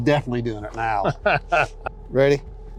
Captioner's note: laughing